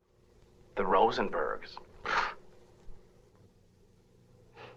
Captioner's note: scoffs